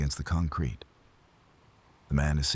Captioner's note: wind Blowing